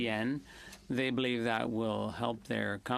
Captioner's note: speaking French